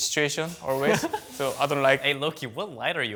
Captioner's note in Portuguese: risos